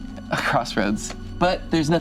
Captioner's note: laughs